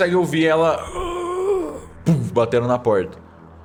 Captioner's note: groan, then slam